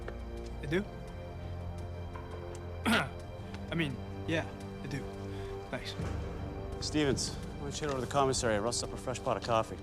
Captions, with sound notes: - I do? (throat clears) I mean, yeah, I do. Thanks. - Stevens, why don't you head over to the commissary, rustle us up a fresh pot of coffee.